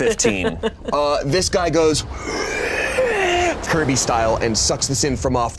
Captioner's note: inhales deeply